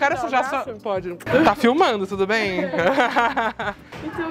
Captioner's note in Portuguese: risos